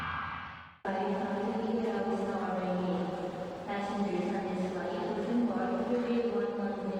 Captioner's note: announcer speaking foreign language